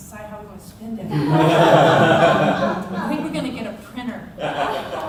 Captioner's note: laughter